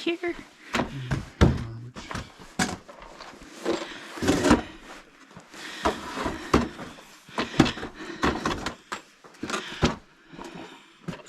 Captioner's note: continued heavy breathing